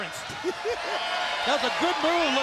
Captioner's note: laughs